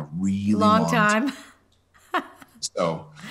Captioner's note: laughing